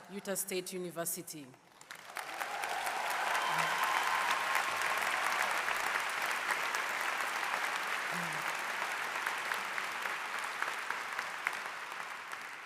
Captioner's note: applause